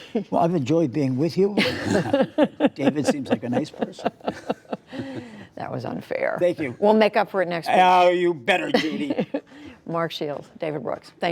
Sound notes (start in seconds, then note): 0.0 laughter; 1.6 laughter; 8.7 laughter